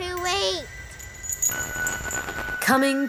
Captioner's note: sinister buzzing